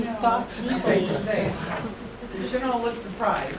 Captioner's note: laughter